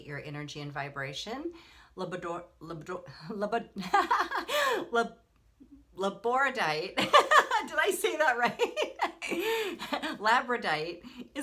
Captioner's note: laugh